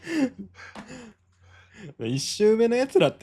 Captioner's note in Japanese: 息をのむ音